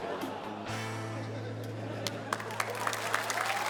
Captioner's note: laughter, applause